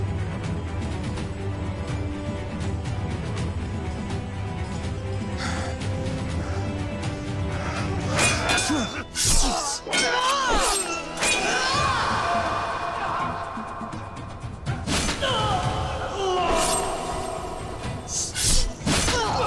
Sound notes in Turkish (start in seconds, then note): 7.8 Çarpışma sesleri